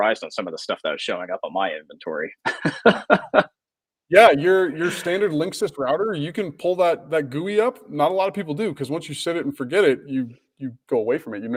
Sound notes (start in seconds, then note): 2.4 laughs